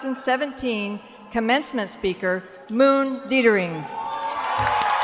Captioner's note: cheers and applause